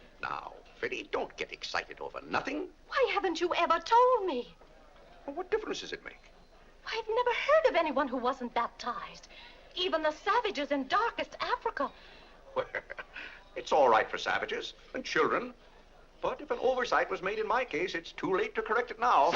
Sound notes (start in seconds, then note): 12.5 laughs